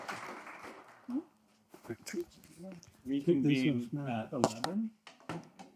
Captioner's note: applause